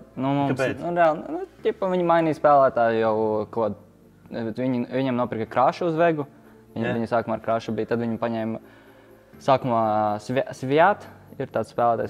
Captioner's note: Estonian